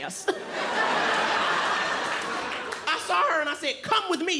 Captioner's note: audience laughing